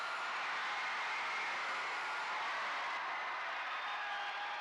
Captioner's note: crowd cheers